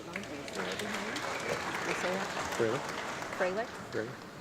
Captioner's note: audience clapping